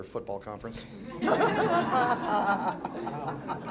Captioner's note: laughter